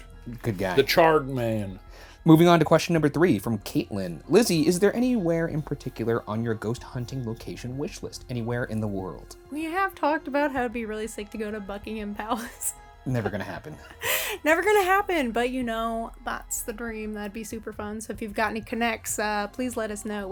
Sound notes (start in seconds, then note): 13.1 chuckling